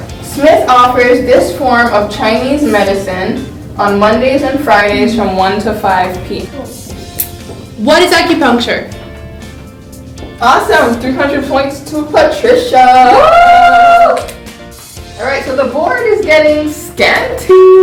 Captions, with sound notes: Smith offers this form of Chinese medicine on Mondays and Fridays from 1:00 to 5:00 p.m. - What is acupuncture? - Awesome, 300 points to Patricia. (cheering) All right, so the board is getting scanty.